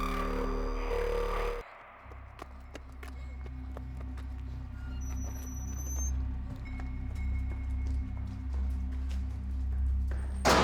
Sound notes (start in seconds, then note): 5.0 door squeaks; 7.3 eerie music